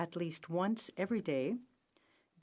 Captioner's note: speaking french